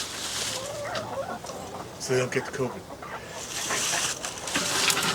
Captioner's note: sarcasm; snarky cackling